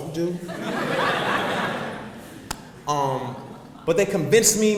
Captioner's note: audience laughs